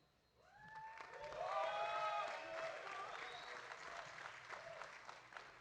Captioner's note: audience cheering